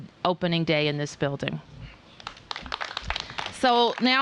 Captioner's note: applause